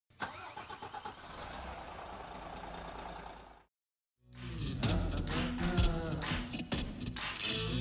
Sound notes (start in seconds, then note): 0.2 engine puttering; 4.3 upbeat music